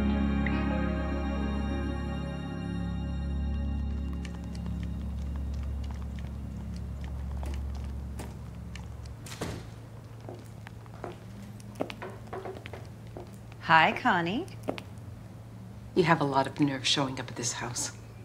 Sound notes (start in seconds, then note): 9.2 door clicking; 11.3 footsteps tapping